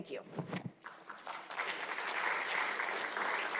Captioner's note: attendees applauding